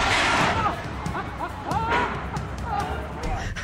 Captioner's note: laughing